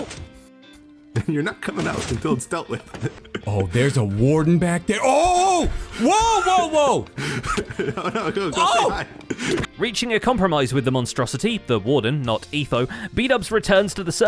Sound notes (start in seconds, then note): 2.9 chuckles; 9.5 smack